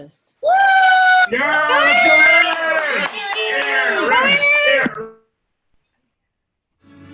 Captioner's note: cheering